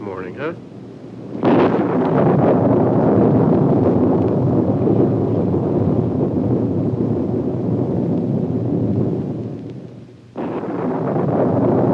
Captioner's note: storm sounds, thunder